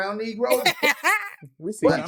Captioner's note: laughing